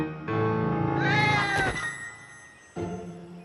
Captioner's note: piano; yowl